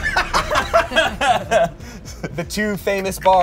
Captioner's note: everyone laughs